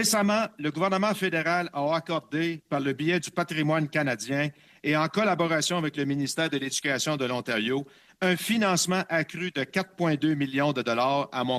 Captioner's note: speaking French